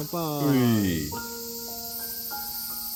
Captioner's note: cheers